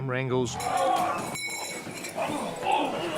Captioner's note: all grunting